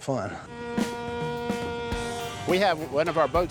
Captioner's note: boat horn sounding